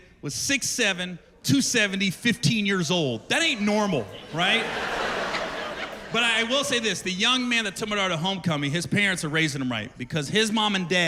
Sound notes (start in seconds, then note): 6.0 laughter